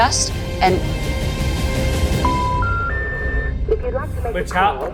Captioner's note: epic music intensifies; tones chiming